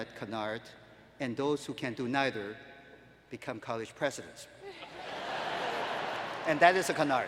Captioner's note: laughing